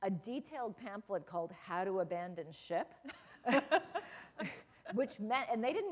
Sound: laughter

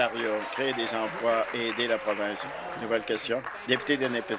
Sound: applause

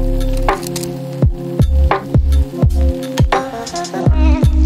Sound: camera clicking

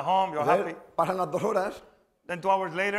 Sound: speaking spanish

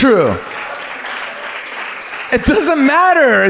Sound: audience claps

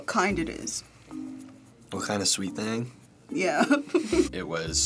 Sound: laughs

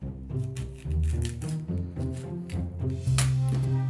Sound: knife cutting

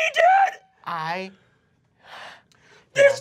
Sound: sighs

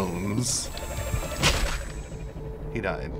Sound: smack!

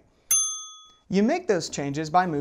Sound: bell dings

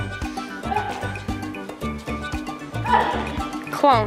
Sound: grunting

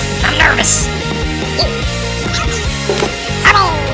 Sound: kittens exclaiming

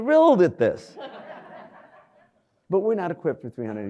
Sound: audience laughs

